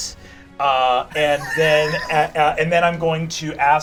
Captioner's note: laughs